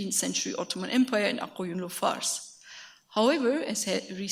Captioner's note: speaks a foreign language